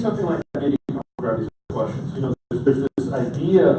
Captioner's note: audio cutting out